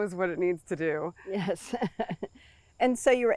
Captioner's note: chuckles